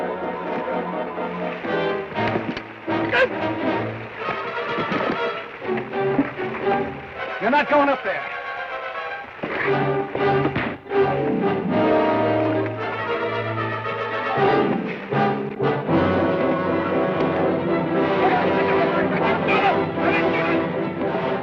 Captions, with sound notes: (Ben grunts) - You're not goin' up there! (thud) (dramatic orchestral music) (distant yelling)